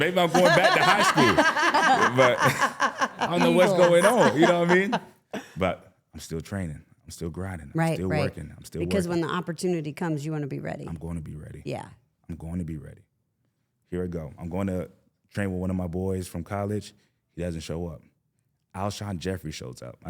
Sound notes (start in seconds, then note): 0.0 laughs